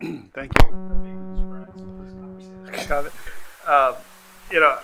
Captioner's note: microphone feedback